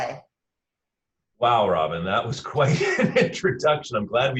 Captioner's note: chuckles